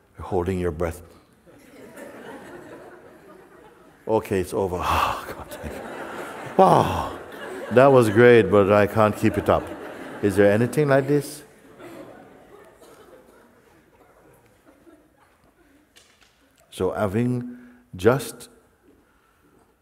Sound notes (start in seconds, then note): 6.8 atmet aus